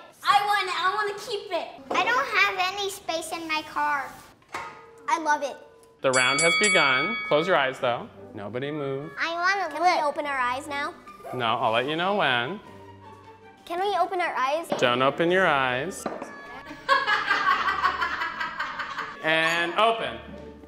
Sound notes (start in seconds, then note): 6.0 bell dinging; 13.6 soft classical music; 16.7 laughing